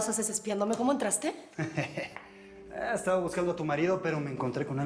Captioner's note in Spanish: Risas